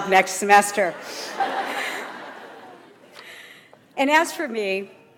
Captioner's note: audience laughs